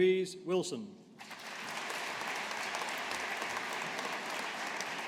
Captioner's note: audience applauding